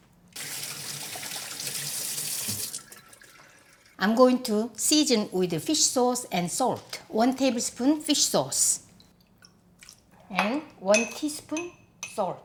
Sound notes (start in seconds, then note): 0.3 water running